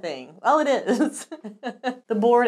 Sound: laughing

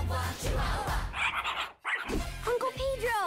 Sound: dogs yap

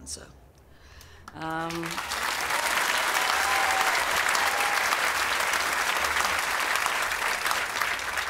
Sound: applause

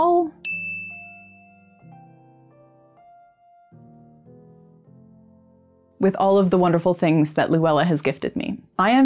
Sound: bell ring

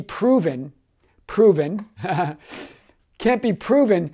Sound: laughs

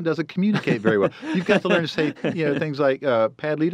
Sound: laughs

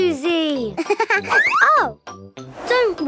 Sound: giggling

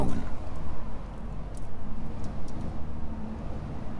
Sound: wind noise

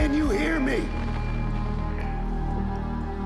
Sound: Static

